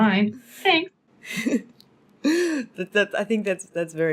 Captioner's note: laughing